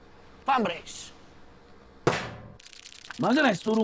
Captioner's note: weird hissing sound